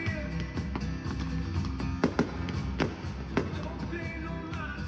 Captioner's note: firecrackers booming